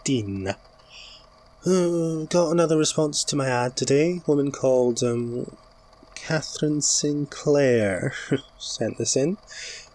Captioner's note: sigh